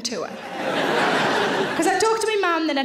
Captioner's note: audience laughing